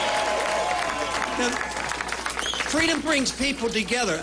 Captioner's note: applause